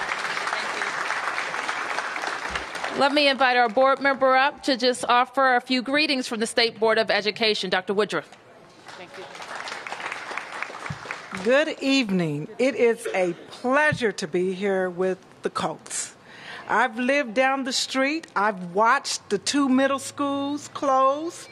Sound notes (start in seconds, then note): 0.0 applause; 8.8 applause